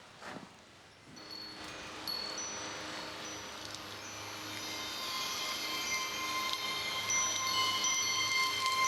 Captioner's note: ringing of wind chimes